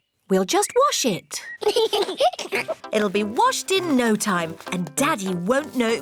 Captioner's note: both giggle